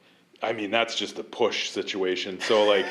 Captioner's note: laughter